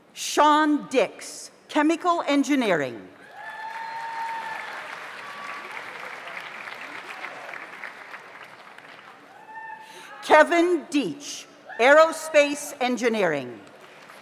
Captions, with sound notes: Shaun Dicks, Chemical Engineering. (audience applauds) (audience cheers) Kevin Dietch, Aerospace Engineering.